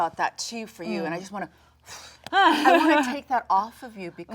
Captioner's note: blows